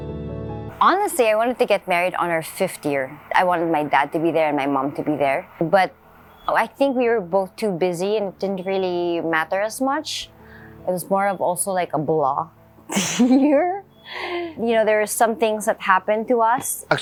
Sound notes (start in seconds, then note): 13.0 laughs